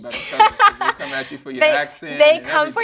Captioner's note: laughing